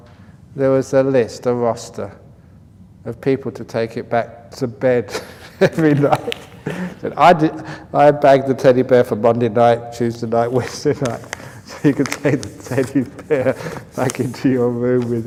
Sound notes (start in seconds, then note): 5.1 laughter; 11.8 laughs